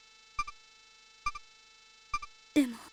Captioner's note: silence